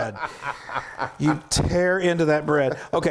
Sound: laugh

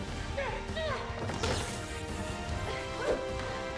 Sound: electricity crackling

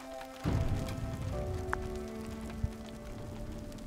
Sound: thunder crashes; rain pattering

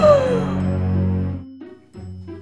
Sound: dramatic gasp

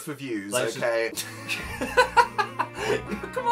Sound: laughter

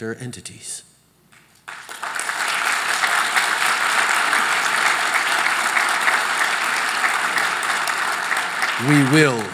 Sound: applause

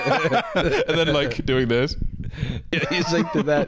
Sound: laughter

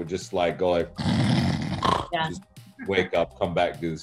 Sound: snoring

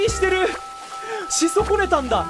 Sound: inhales

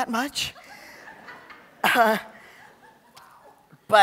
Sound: laughter

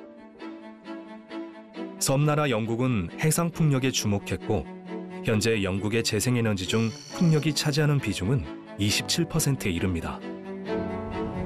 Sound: voiceover

